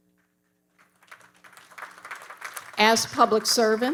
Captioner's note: audience applauding